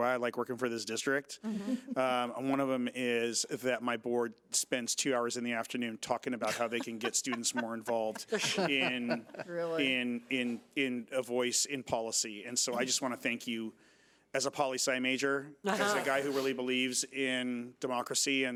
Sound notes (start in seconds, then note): 8.9 members chuckling